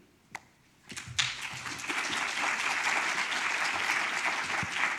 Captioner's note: audience applauds